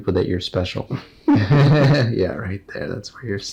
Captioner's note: both laugh